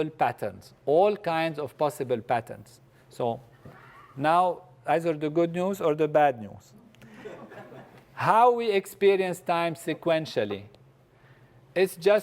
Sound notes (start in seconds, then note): 7.0 laugh